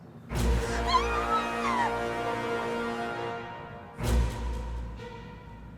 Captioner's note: sinister music; Mischa screaming